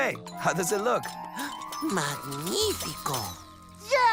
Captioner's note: gasps